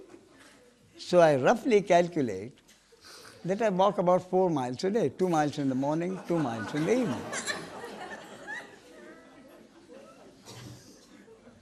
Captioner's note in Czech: smích